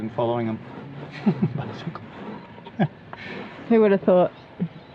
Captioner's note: laughs